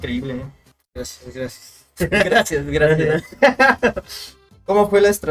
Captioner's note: giggles in Up B OoS